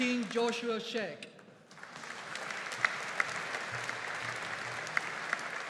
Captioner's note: audience applauding